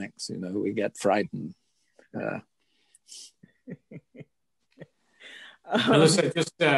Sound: laugh

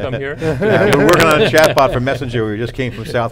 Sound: all laughing

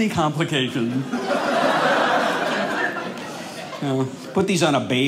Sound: audience laughing

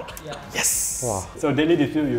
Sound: laughs

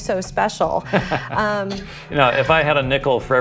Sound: laughs

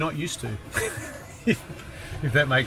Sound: laughs

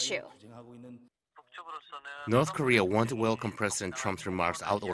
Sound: Korean

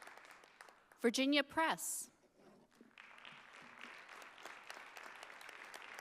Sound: audience applauding

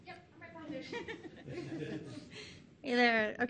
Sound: audience chuckles

